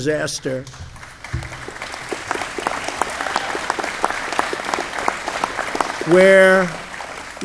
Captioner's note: applause